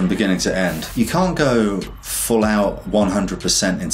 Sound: air whooshes; upbeat instrumental music

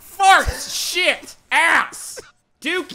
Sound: laughing

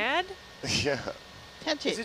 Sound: laughs

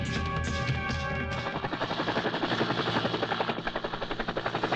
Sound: helicopter sound

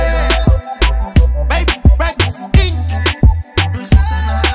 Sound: eoh-eoh-eoh

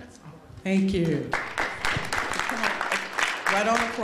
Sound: applause

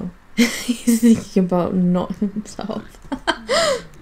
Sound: laughing

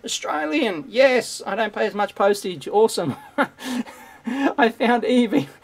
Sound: laughs

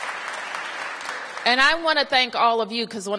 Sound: applause

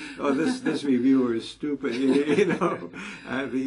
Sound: laugh

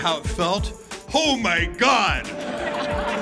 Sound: laughter

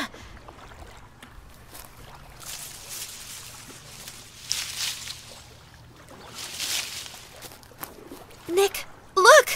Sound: bushes rustling

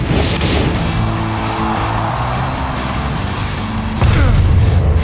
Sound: crowd cheering

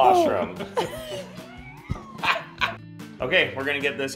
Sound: laughing

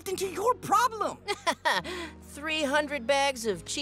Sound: chuckles

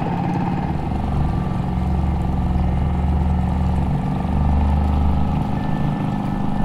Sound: boat motor hums; somber music

